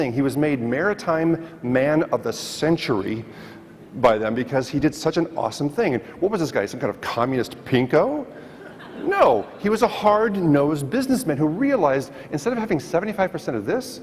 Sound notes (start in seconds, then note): 8.5 audience laughs